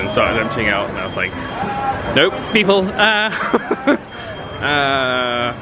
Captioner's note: laughs